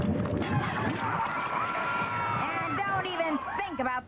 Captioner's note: screaming